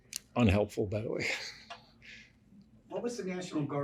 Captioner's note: laughs